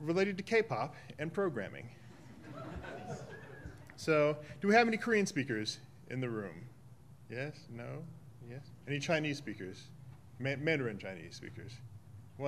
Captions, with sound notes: related to K-Pop and programming. (audience laughing) So, do we have any Korean speakers in the room? Yes, no, yes? Any Chinese speakers? Mandarin Chinese speakers?